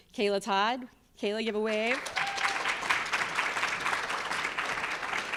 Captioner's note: audience applauds